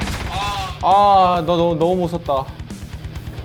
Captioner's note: frustrated